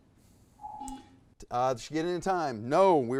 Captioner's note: buzzer buzzes